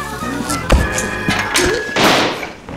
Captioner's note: hyperventilating; electricity crackling; gasps; gunshot; thud